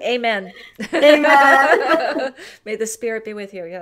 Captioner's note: laughter